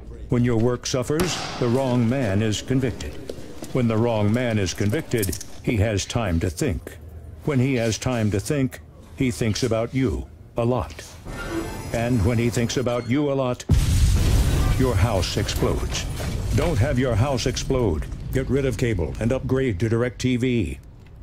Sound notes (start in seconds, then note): 1.1 gavel bangs; 13.7 house explodes